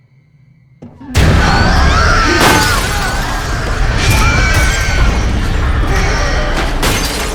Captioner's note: demon roaring; Mattie screaming; glass shattering